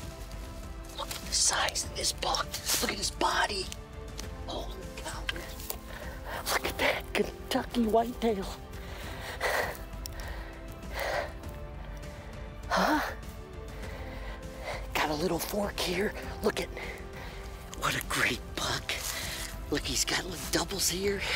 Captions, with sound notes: Hey Ron. (sniffling) This one's for Ron and Mom, Noni. Nice one, nice one. (peaceful music)